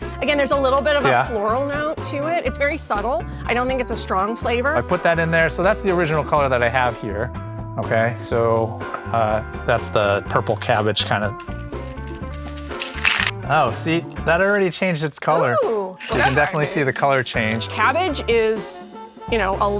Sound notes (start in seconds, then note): 11.6 upbeat jazz music; 11.6 liquid sloshing